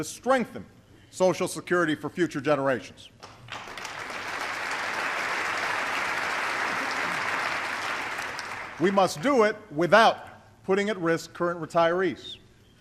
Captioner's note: applause